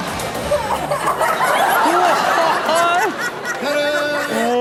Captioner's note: group exclaiming